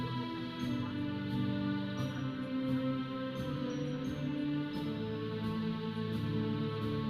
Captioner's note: processional music; audience chattering